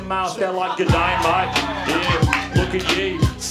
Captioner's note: Australian accent impression begins